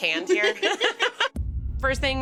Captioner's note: all laughing